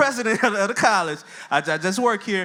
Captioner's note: laughs